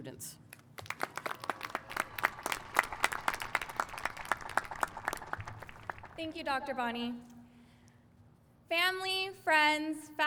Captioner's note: applause